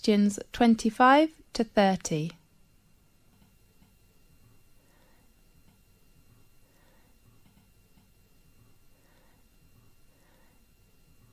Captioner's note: 5 seconds pause